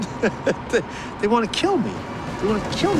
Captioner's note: chuckles